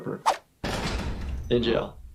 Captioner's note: door shutting; door swooshing